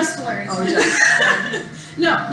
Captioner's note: laughter